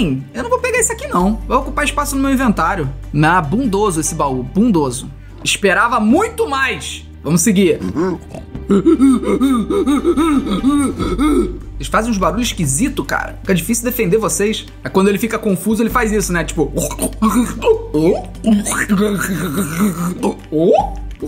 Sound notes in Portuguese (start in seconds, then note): 7.7 imita os piglins; 8.6 piglin faz barulho; 16.7 imita os piglins